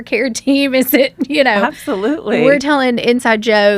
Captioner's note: laughs